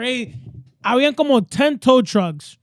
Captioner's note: speaking In Foreign Language